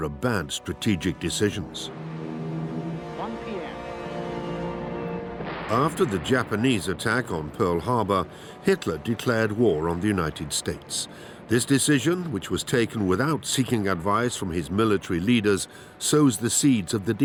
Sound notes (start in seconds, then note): 2.9 speaks in foreign language; 5.3 explosion booms